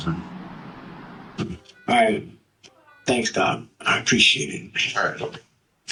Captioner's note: noisy city; heart machine